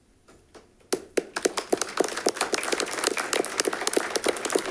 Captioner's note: all clapping